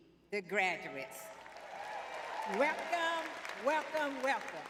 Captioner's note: audience cheering